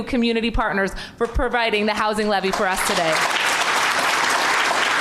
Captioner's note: applause